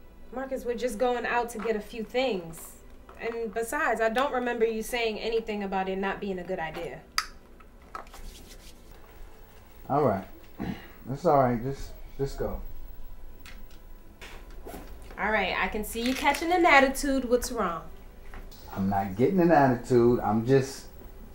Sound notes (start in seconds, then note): 7.1 cap clicking; 10.6 clears throat; 14.9 bag zipping